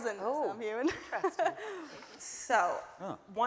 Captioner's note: laughing